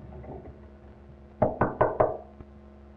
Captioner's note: knocking